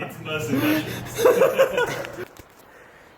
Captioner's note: laughing